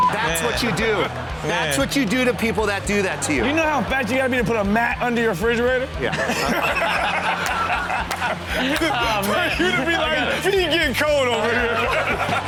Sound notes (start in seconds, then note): 6.0 all laugh